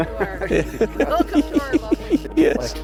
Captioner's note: laughter